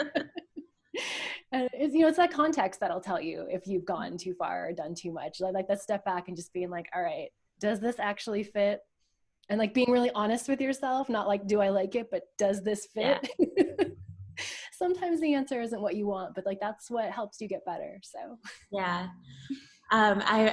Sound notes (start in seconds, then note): 13.2 laughs